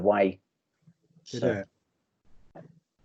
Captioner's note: muttering In Agreement